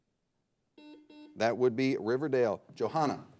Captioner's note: buzzer blares